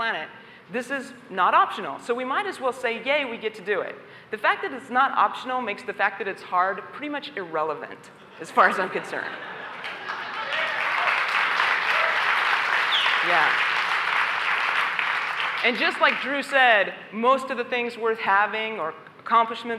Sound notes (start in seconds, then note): 8.2 laughter; 9.6 applause